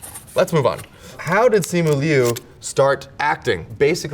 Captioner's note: paper rips